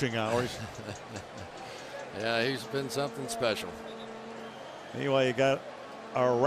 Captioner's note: laughs